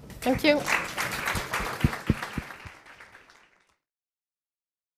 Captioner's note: applause